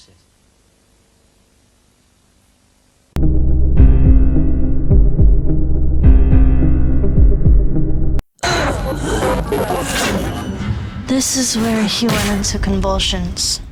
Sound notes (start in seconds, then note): 8.4 distorted noises, boy groaning